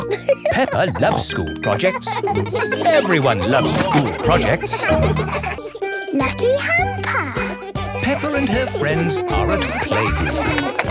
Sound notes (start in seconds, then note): 0.0 snorts and laughs; 2.5 children laughing; 10.5 claps